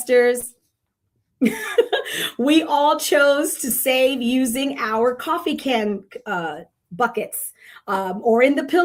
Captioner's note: chuckles